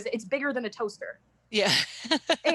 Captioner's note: laughter